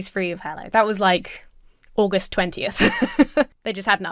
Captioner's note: laughs